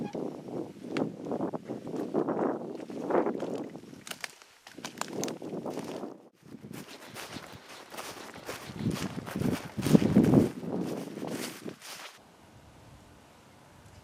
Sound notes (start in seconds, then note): 0.5 wind blows; 4.5 branches crack